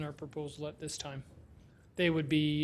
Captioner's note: none